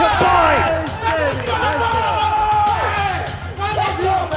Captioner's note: group cheering